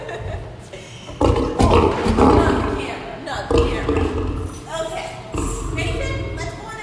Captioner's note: laughing; lion growls